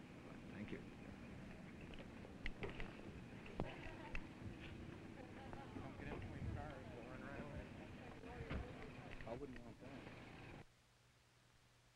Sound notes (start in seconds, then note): 0.1 background conversations